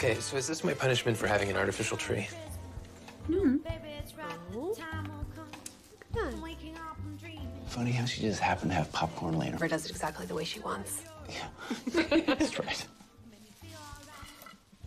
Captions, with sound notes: for having an artificial tree? Hmm. Ooh, look at that. Funny how she just happened to have popcorn laying around. - Yeah, that's right. - [laughs]